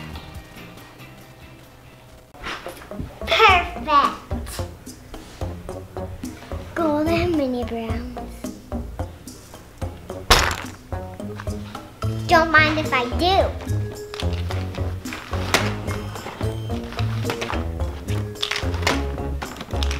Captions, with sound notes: - Perfect. (stealthy music) Gold and Mini Brands. (bag thuds) Don't mind if I do. (items clunking)